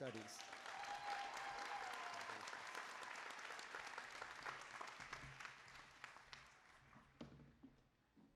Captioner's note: applause